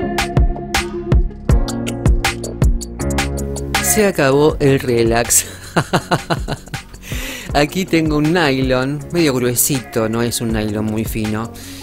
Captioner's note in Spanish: risas